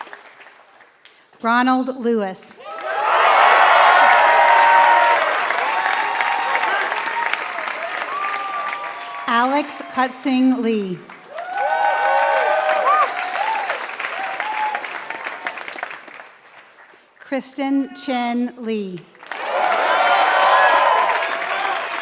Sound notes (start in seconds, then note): 3.1 applause; 10.8 applause